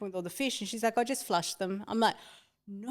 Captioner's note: gasps from the room